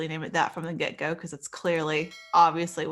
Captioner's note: bell chiming